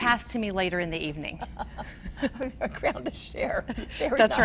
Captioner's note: laughs